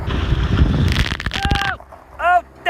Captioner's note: splash